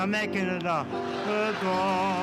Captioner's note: audience laughs